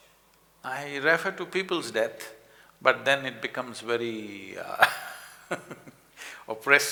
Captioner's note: laughs